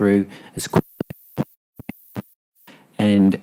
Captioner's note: audio cutting off